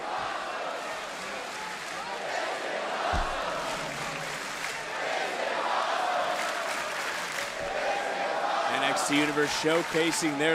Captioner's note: crowd chanting